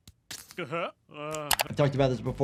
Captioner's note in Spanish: Homero gimiendo felizmente